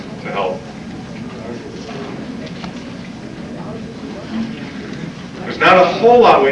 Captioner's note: chatter